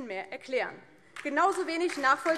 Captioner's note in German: Beifall DIE LINKE und vereinzelt SPD